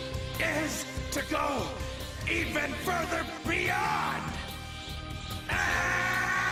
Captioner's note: screaming